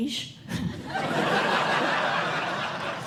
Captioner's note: laughter